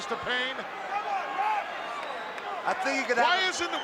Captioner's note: crowd cheering